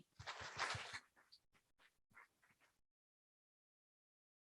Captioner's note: audience applauding